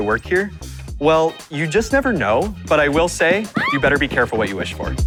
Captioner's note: girl screaming